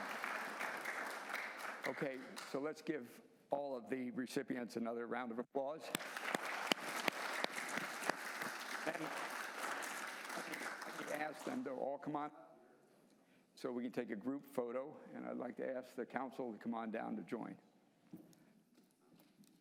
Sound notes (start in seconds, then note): 0.0 applause; 9.3 applause